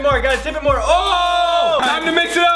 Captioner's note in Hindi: चिल्लाते हुए